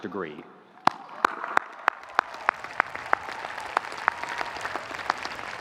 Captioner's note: audience applauding